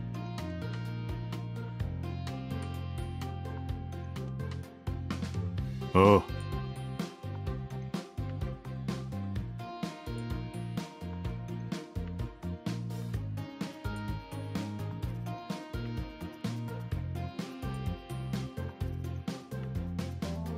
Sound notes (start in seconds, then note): 2.6 chuckle